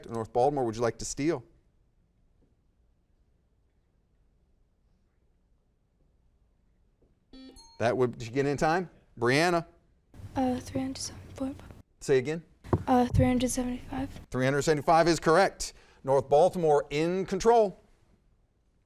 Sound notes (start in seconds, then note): 7.2 buzzer dings; 7.4 bell rings